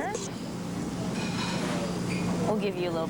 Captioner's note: silverware clanging in background